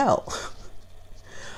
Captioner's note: laughs